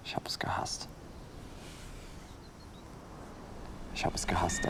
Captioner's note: flashback sound